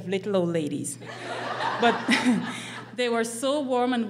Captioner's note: laughing